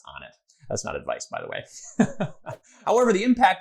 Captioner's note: chuckles